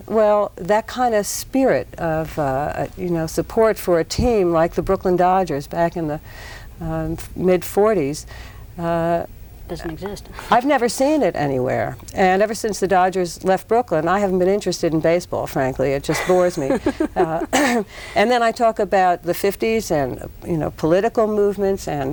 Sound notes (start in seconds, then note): 16.0 laughs